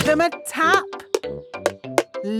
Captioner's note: taping